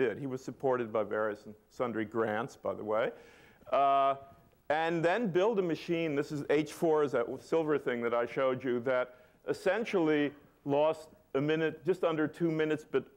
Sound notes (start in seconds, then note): none